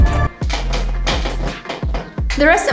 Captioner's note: electronic dance music; chair clanking sounds